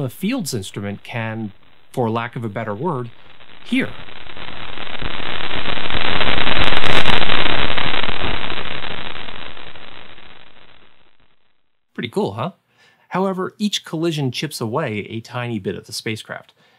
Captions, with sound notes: FIELDS instrument can - for lack of a better word - “hear.” [static] Pretty cool, huh? However, each collision chips away a tiny bit of the spacecraft.